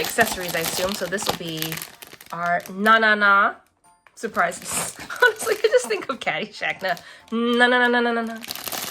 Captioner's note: laughs